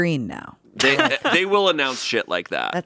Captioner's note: laughs